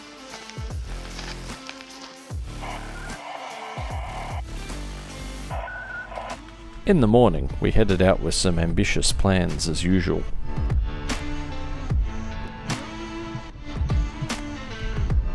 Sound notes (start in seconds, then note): 2.6 ARDOP noises; 5.1 more ARDOP noises